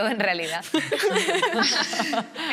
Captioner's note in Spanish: Risas